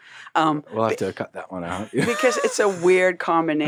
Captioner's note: laughs